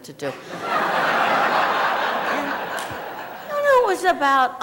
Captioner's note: laughter